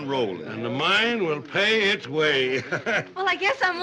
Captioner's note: laughs